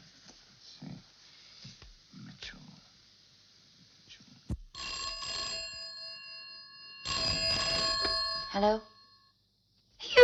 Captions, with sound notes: Hmm. Let's see. (phone ringing) - Hello?